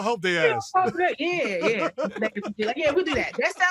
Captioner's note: laughs